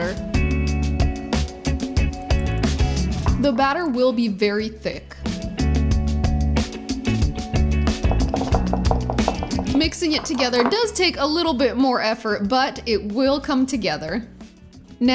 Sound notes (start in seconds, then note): 0.2 upbeat music; 5.3 upbeat music; 8.0 bowl rattling